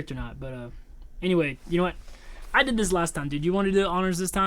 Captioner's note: none